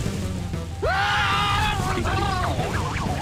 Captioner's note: screaming